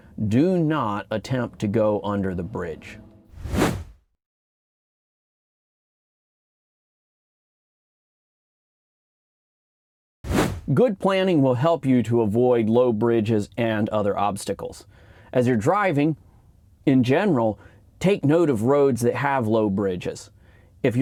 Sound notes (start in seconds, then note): 3.3 air whooshing